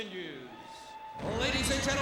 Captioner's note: audience cheers